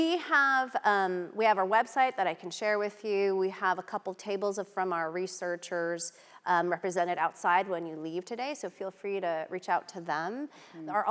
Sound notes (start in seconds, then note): none